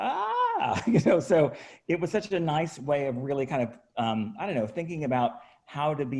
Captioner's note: chuckles